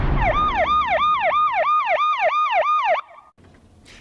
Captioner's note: siren